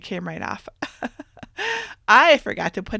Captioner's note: chuckles